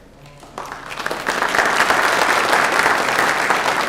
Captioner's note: applause